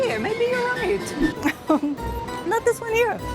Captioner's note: chuckles